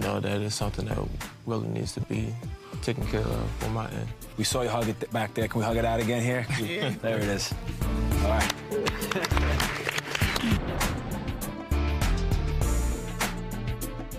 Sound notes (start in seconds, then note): 8.7 applauding